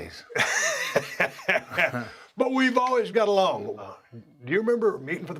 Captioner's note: laugh